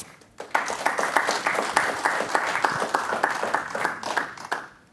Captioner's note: applause